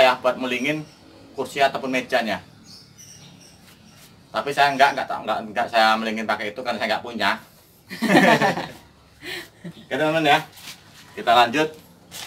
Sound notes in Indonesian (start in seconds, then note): 7.9 tertawa